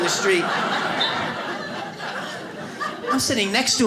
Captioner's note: audience laughs